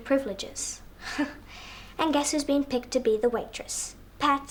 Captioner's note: chuckles